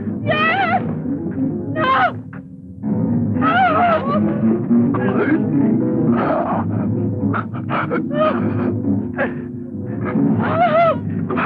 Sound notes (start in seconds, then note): 3.4 crying; 4.9 grunting